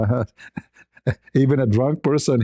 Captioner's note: ketawa